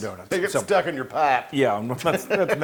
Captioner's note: laugh